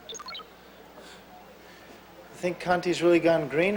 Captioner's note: beeping